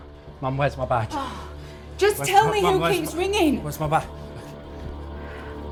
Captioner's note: sighs